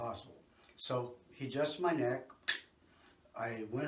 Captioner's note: mimics cracking sound